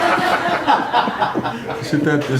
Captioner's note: laughing